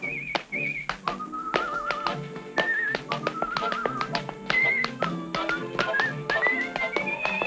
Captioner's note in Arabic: نقرات الأحذية; صفير